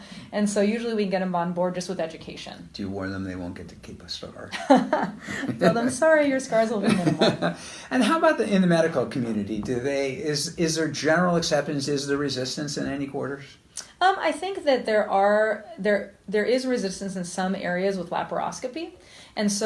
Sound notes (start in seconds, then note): 4.5 laughter; 6.8 laughs